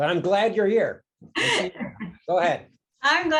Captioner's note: laughs